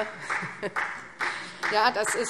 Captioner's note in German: Beifall SPD